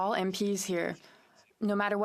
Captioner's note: speaking in French